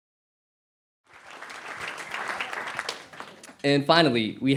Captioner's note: cheers and applause